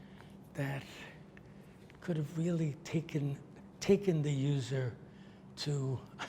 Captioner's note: laughs